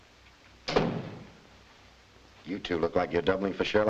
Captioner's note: door thuds shut